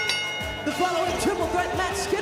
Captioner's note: bell rings